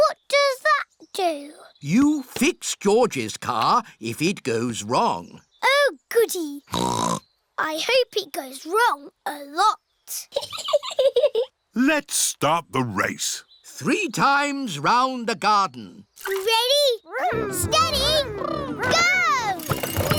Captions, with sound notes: -What does that do? -You fix George's car, if it goes wrong. Oh, goody. (SNORTS) I hope it goes wrong a lot. (CHUCKLES) Let's start the race. Three times round the garden. Ready, steady, go!